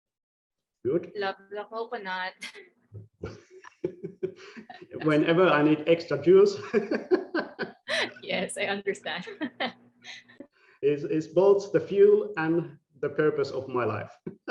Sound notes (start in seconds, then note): 3.2 laughing; 6.6 laughing; 14.2 laughing